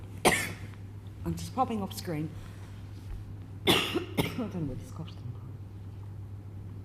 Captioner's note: coughs; coughs